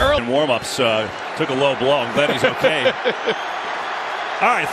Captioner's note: laughing